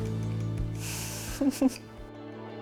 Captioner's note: both laugh